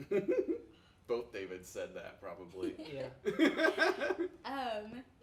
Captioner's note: laughs